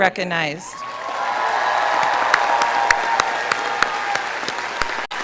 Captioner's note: audience cheering